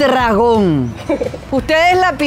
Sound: laugh

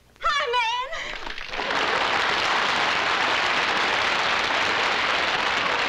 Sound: applause

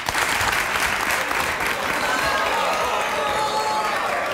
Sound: audience claps

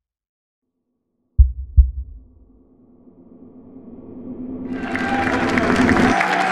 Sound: cheering

